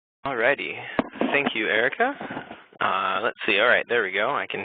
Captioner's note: voiceover